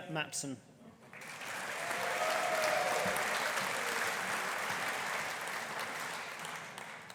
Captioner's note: audience applauding; audience cheering